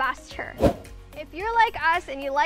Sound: fast wind sound

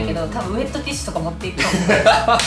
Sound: laughs

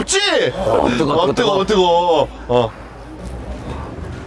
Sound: wind

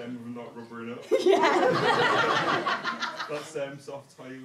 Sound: audience laughter

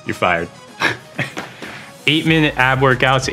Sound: laughing

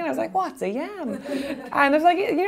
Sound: laughing

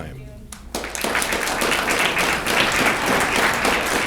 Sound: audience clapping

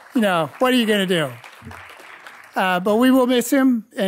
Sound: audience clapping

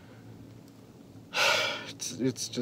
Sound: deep breath

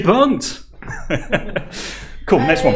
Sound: laughing

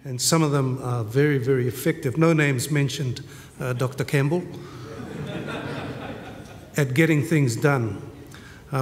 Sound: laughter

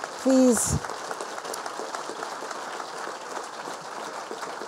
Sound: people applauding

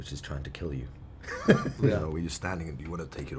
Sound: laughing

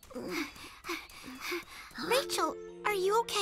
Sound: Jeni panting

